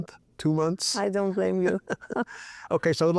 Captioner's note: both chuckling